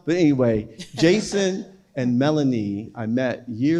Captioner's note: chuckles